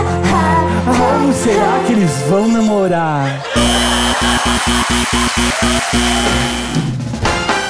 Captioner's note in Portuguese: campainha e aplausos